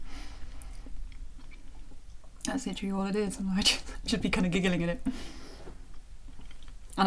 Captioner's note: chuckle